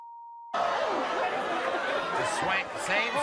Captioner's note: audience jeering and swearing